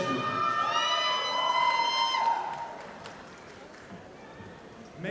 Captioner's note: audience applauding